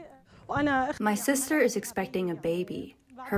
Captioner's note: through translator